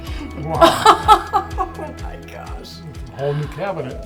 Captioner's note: laughing